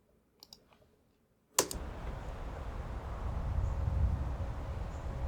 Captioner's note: spacebar click; nature sounds